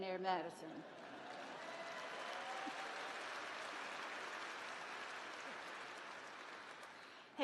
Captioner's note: applause